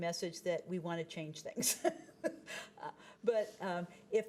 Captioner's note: chuckling